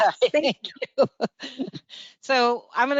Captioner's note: chuckles